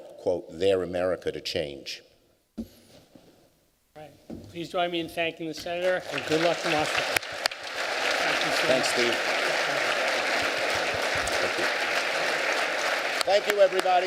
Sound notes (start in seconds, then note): 7.4 applause